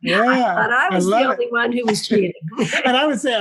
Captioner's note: laugh